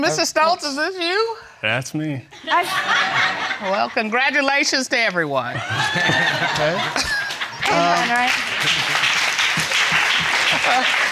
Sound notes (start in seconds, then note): 2.5 audience laughing; 5.6 all laughing; 7.3 chuckles; 8.2 audience applauding